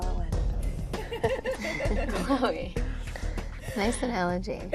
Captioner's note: laughing; laughing